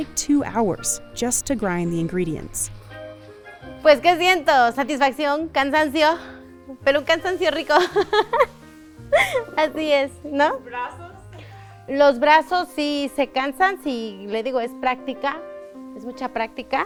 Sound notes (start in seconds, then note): 4.2 speaking foreign language; 7.7 laughing